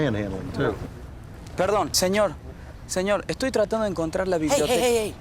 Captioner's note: man speaking Spanish